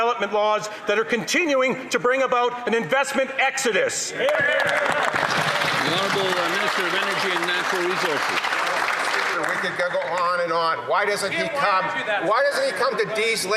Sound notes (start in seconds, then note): 8.8 some Applause